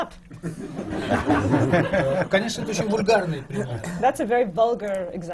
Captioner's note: laughter; foreign language not transcribed